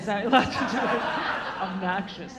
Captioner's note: all laughing